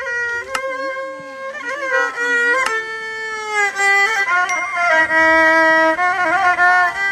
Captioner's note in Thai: ปรบมือ